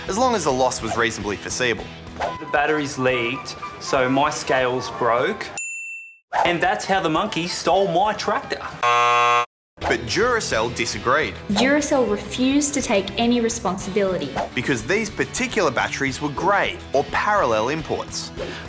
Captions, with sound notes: as long as the loss was reasonably foreseeable. The batteries leaked, so my scales broke. (High-pitched ding) And that's how the monkey stole my tractor. (Loud buzz) But Duracell disagreed. Duracell refused to take any responsibility... Because these particular batteries were grey, or parallel, imports.